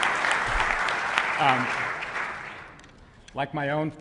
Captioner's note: applause